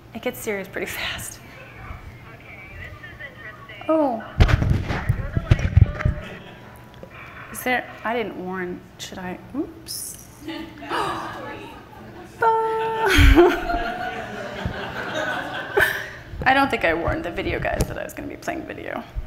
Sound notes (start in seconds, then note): 10.5 everyone laughing